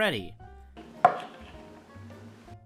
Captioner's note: tap